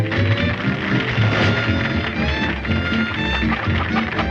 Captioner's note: audience applauding